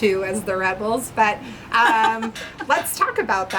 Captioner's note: laughing